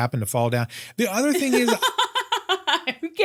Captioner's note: laughs